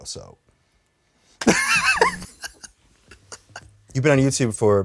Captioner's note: laughs